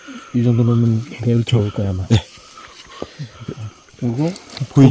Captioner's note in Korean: none